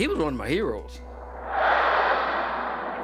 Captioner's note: plane roaring